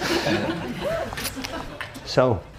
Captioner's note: audience laughing